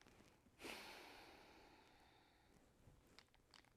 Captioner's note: Eden exhales